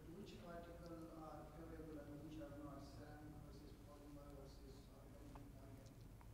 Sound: speaks quietly without mic

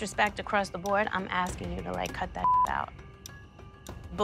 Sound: beep

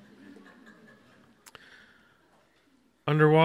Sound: audience laughs

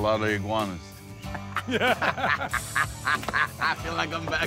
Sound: all laugh

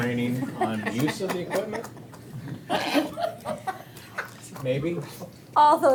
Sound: all chuckling

